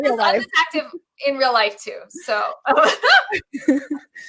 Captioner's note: laughs